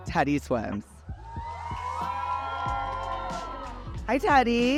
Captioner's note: crowd cheers